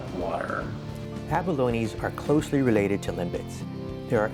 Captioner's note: voiceover